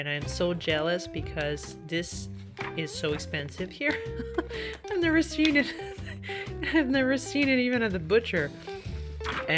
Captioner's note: laugh